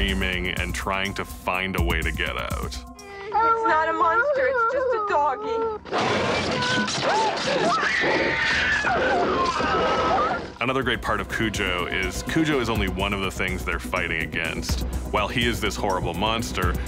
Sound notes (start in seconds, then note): 3.0 boy crying; 5.6 growls loudly; 7.5 boy screaming